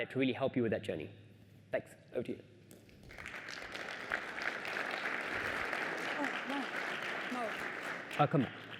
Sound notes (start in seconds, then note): 6.3 applause